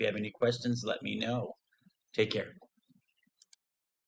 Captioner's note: mouse clicking